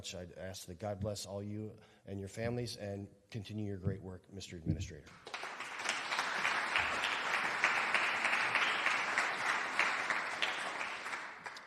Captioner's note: applause